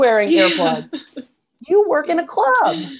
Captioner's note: laughing